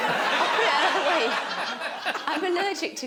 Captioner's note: laughing